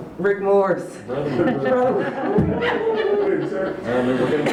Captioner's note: laughter